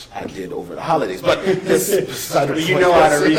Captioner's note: laughs